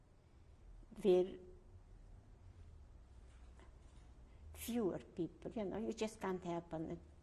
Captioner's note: pauses for 3 seconds